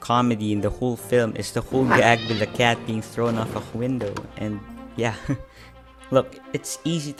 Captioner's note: chuckles